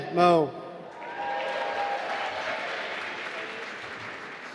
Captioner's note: applause